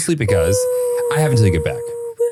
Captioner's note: whimpering